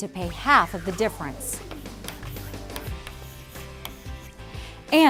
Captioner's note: chalk scribbling